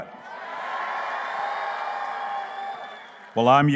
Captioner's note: cheering